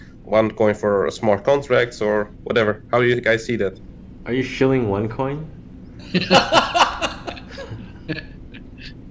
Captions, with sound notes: one coin for smart contracts or whatever. How do you guys see that? Are you shilling one coin? [Laughs]